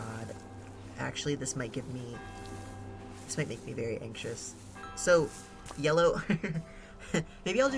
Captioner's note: laughs